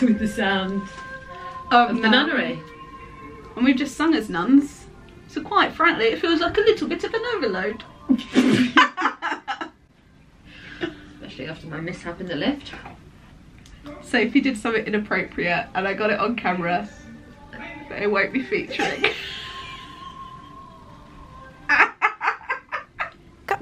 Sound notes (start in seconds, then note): 8.0 laugh; 21.6 they laugh; 23.4 relaxing music